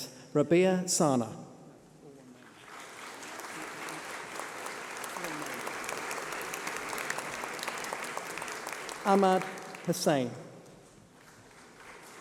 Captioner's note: applause